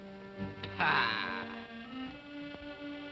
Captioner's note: scoffs